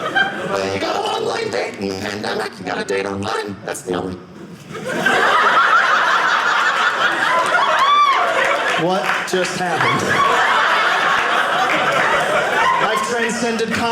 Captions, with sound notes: You got to online date in a pandemic. You got to date online. That's the only-- (audience laughing) What just happened? (audience laughing) I've transcended comedy